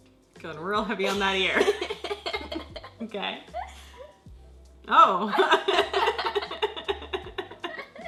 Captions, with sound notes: Got real heavy on that ear. (laughs) Okay. Oh! (laughs)